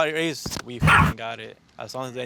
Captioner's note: Mochi barks